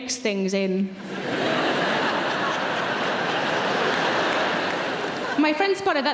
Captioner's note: audience laughs and claps